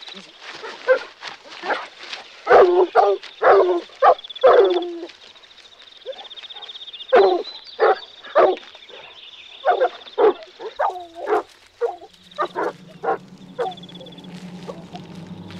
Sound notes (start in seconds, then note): 2.4 dogs barking; 5.2 birds chirping; 12.1 suspenseful music